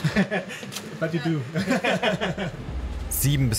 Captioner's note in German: Lachen